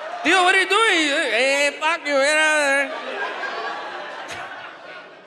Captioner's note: speaks in a foreign language; audience laughs